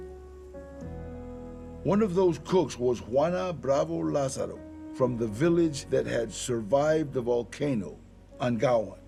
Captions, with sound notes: [in English] One of those cooks was Juana Bravo Lázaro from the village that had survived the volcano, Angahuan.